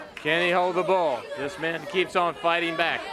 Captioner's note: crowd chatter